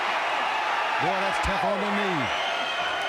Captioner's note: fans cheering